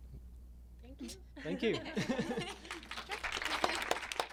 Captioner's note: clapping